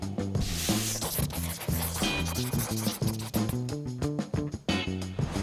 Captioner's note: pencil scribbles; upbeat music continues